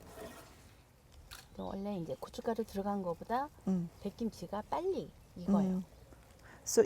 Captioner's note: speaking Korean